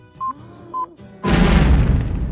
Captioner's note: Coyote gasping; bomb booming